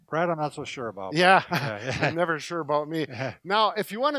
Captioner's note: laughs